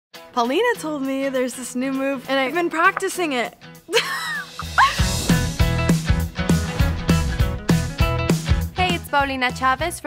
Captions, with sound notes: - Paulina told me there's this new move and I've been practicing it. (laughs) (upbeat music) - Hey, it's Paulina Chávez